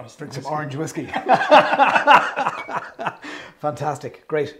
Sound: both laughing

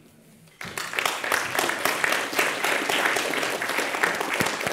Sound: audience claps

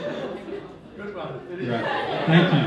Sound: audience laughing

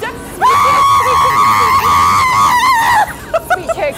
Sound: screaming

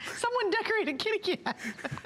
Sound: laughter

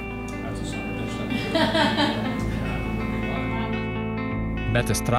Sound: laughs

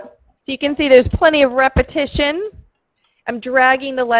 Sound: voiceover

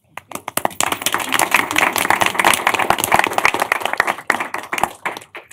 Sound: applause

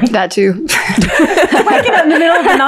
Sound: all laughing

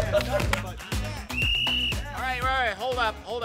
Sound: whistle blows

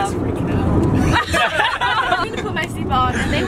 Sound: laughing

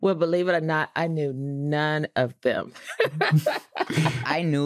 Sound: all laughing

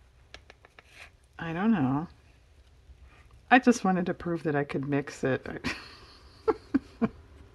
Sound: laughs

